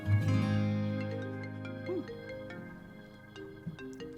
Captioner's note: phone ringing